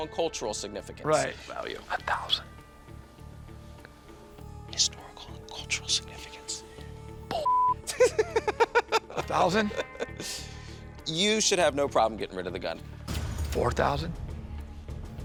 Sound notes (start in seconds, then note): 2.2 whispering; 7.8 laughs